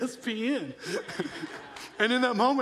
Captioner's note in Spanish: se rie ligeramente